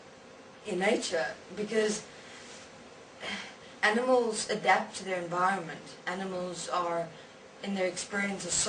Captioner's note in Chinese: 叹气